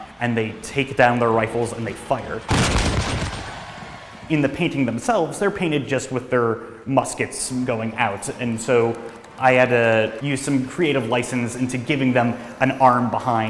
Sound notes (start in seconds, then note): 2.4 gunshots